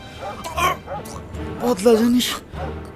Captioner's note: struggling